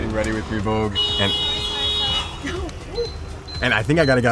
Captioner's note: horn blares